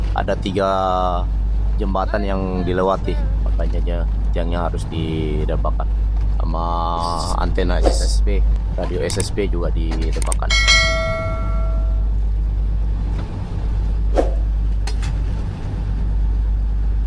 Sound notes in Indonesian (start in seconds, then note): 10.4 lonceng